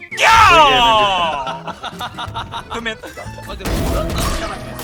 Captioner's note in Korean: 들숨